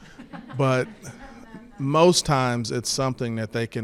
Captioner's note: attendees laugh